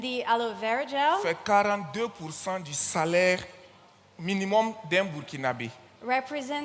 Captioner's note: continues in French